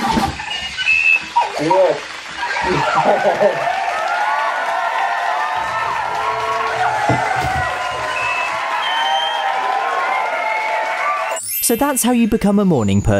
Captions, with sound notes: Did it work? YES! [applause] So that’s how you become a morning person.